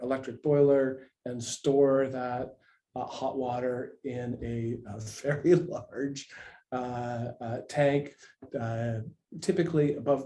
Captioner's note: laughs